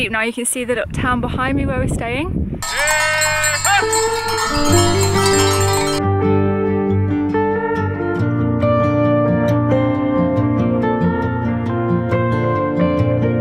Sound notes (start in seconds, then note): 2.6 bells ringing, man calling loudly